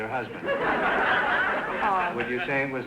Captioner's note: audience laughter